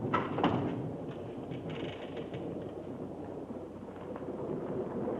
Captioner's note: thunder rumbling